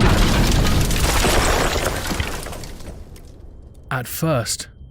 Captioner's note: SFX explosion